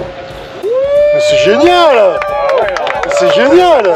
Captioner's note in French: applaudissements